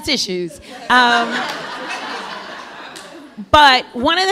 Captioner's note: laughter